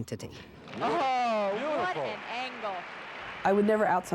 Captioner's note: court noises